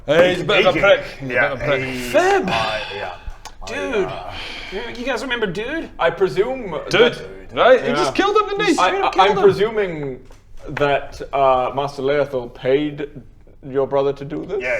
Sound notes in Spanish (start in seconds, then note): 2.2 suspiro